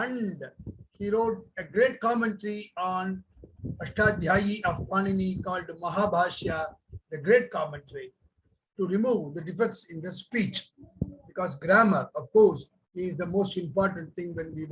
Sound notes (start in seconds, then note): 4.0 speaks in foreign language